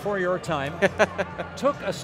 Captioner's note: laughing